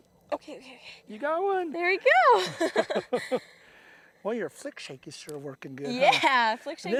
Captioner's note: laughter